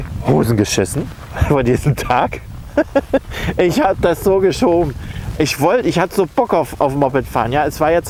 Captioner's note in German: lacht